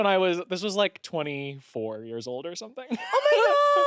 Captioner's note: laughs